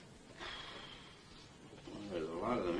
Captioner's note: exhaling sharply